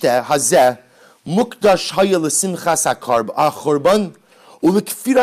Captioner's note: Hebrew